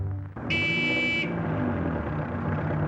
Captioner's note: honks